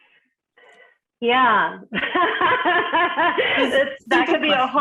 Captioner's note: laughing